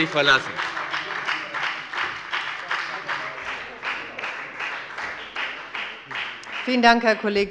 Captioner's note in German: Beifall bei der FDP und der SPD